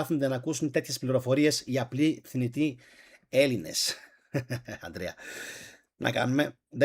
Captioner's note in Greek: γέλια